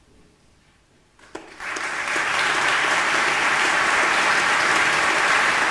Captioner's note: audience applauding